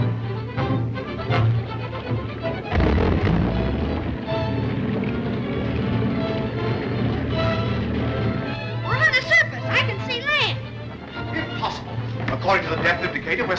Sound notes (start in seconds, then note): 2.6 submarine buzzes